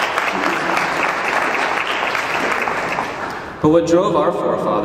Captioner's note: clapping